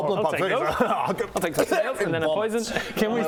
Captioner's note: hrgh